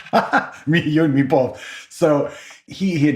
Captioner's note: laugh